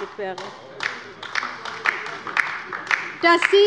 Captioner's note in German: Beifall bei der LINKEN